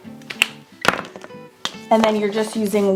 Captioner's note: markers clicking